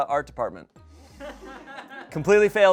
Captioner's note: audience laughing